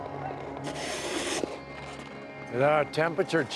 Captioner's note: snow shovel grinding continues